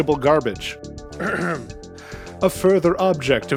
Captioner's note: ahem